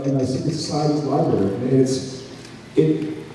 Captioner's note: none